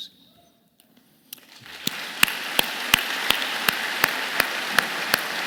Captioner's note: participants clapping